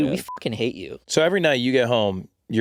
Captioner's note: beeping